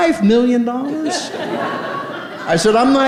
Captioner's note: audience laughing